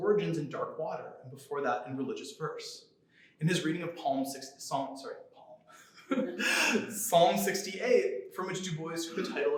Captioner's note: laughter